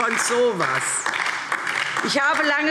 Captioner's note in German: Beifall DIE LINKE